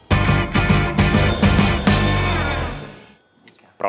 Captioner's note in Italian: squilla il telefono